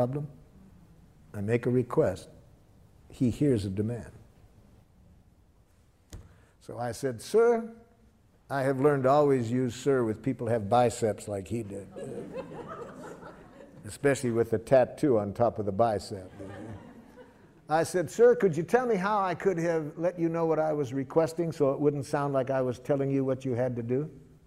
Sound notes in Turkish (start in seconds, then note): 16.1 Gülüşmeler